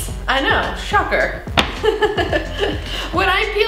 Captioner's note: laughing